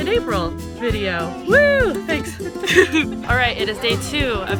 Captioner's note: laughs